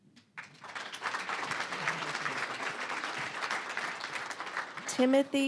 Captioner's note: applause